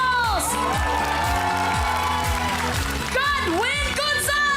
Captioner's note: clapping, cheering